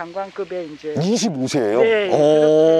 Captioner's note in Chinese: 惊讶